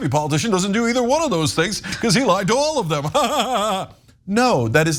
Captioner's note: laugh